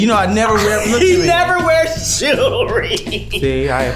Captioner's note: laughs